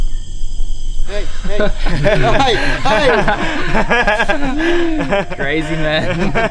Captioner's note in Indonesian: laugh